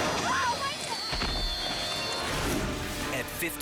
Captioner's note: lion thuds